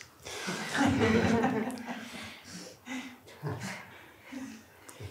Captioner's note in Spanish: risas